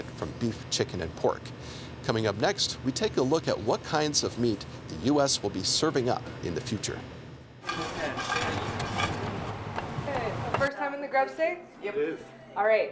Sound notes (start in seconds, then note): 7.8 knife chopping